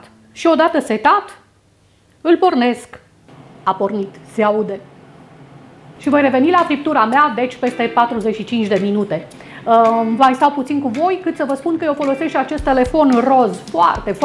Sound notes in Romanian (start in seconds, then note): 6.0 sunet discret emis de Air Fryer-ul XiaoMi